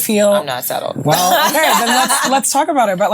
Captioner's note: laughing